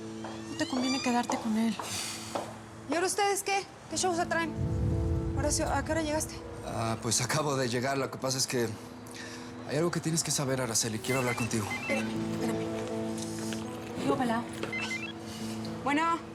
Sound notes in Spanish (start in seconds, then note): 11.6 suena un celular